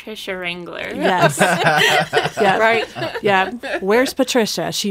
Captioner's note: laughing